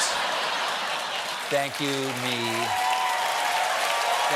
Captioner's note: laughter; cheers and applause